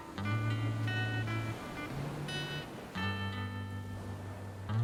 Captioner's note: waves crashing